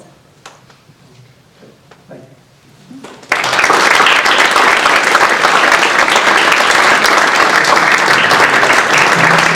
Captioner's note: audience applause